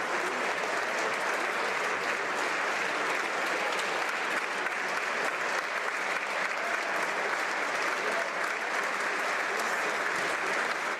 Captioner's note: some Applause